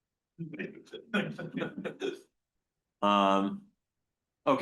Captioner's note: audience members laugh